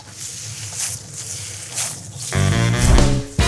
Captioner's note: upbeat music; batter smacking